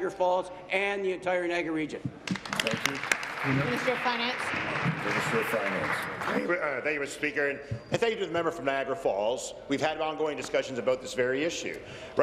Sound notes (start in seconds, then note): 6.0 applause